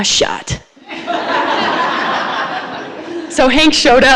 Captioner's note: audience laughs